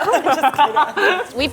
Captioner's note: laughing